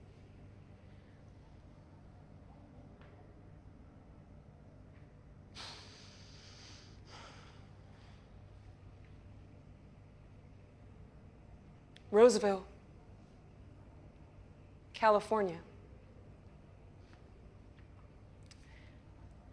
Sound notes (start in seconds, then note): 7.0 sighs